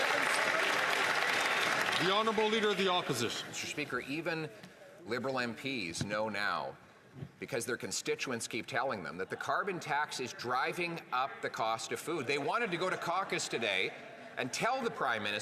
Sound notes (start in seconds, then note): 2.6 some Applause